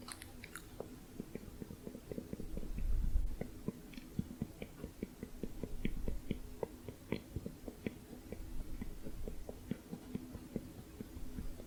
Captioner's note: muffled tongue clicking